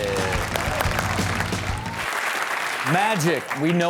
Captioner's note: crowd applauds